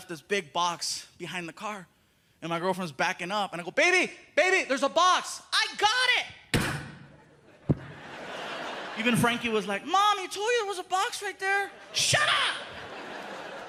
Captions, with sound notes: and they left this big box behind the car, and my girlfriend's backing up, and I go, "Baby, baby, there's a box." "I got it." [crashing sound] [laughter] Even Frankie was like, "Mom, he told you there was a box right there." "Shut up!"